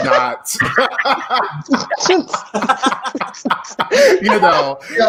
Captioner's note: congregation laughing loudly